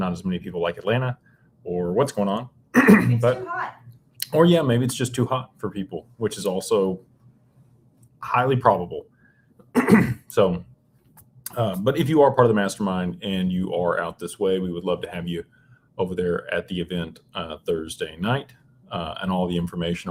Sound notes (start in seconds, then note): 9.7 clears throat